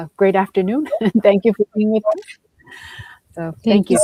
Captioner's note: chuckles